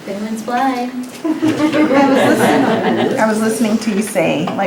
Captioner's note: laughter